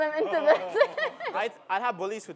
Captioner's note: laughter